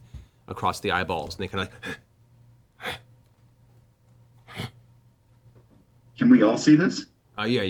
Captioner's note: grunts